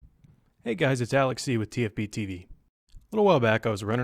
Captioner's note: voiceover